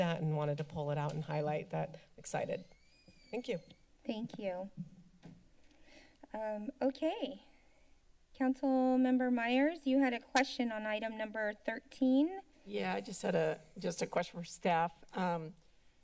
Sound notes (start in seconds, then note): 2.5 door Creaking